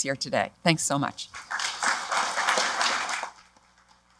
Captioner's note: applause